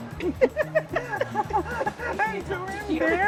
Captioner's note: laughter